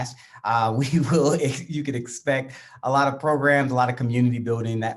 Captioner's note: chuckles